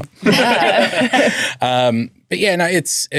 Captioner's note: all laughing